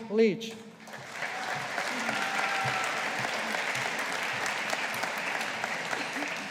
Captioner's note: audience applauding